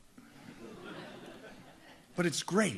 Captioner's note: audience laughs